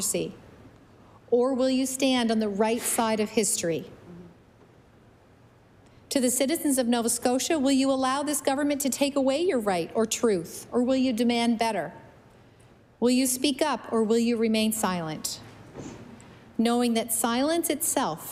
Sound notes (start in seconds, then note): none